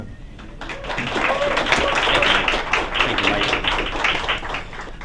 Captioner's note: applause